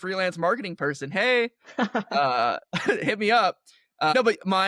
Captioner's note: laughter